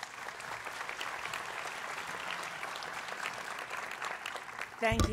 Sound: applause

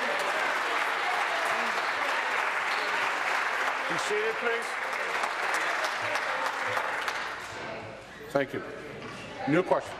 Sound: applause

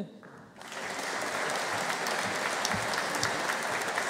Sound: audience applauding

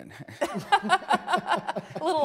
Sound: laughter

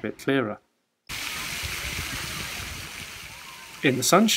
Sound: sounds of water and children playing

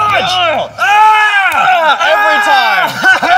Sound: shouting and cheering

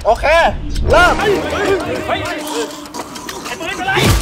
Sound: panics

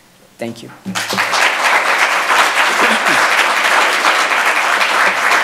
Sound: audience applauds

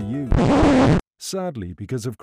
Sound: record stopping

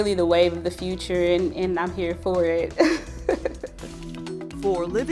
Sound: laughs

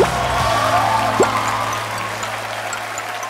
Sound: chew! Chew!

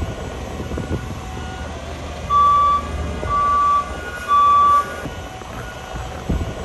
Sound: sound of construction workers moving a girder

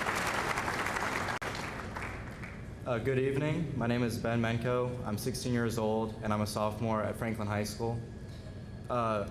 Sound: applause

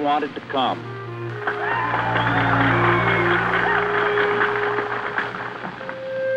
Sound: applause

